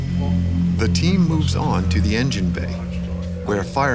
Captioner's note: voiceover